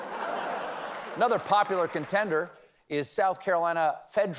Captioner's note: laughter